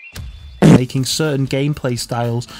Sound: ungodly loud fart noise

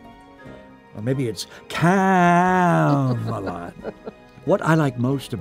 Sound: Heather laughing

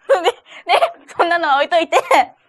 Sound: laughs

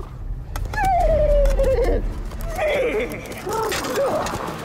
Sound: whinnying

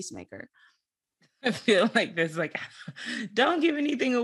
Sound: chuckles

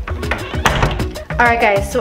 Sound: door shuts

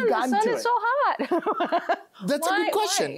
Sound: laughs

